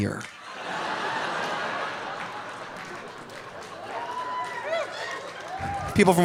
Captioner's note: audience laughing; audience applauding